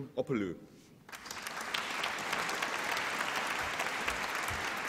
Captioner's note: applause